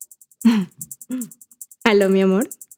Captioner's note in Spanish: carraspeo